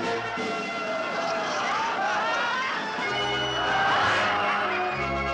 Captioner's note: audience laughs